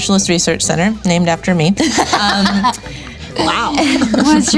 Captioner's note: laughing